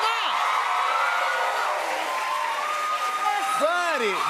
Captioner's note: cheers and applause